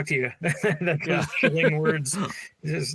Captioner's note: laughs